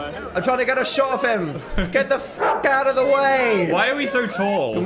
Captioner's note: dog barks